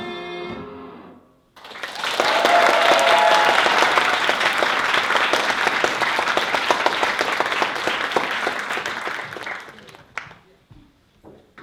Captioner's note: applause